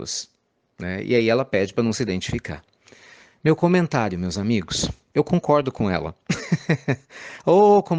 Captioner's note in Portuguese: risadas